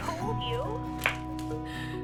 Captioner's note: high five slap